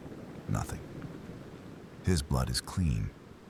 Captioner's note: wind Blowing